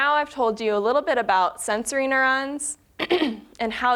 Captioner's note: clearing throat